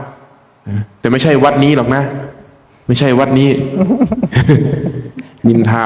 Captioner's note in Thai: เสียงหัวเราะ